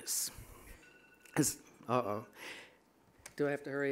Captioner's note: phone alarm sounding